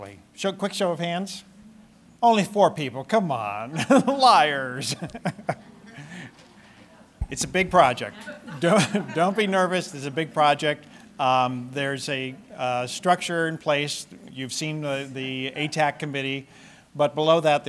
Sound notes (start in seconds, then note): 4.8 laughter; 8.4 laughter